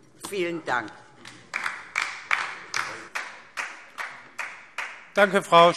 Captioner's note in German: Beifall DIE LINKE